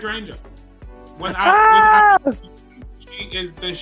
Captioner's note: laughter